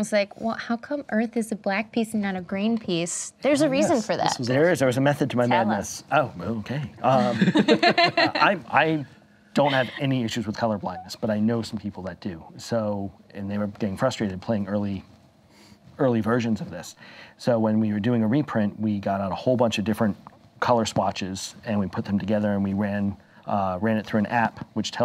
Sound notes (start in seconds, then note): 7.0 collective laughter